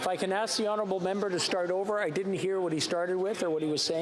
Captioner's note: yelling